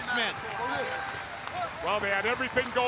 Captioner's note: crowd cheering